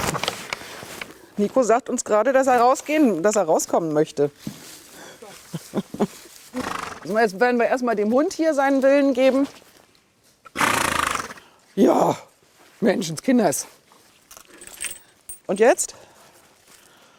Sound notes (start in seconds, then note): 10.5 snort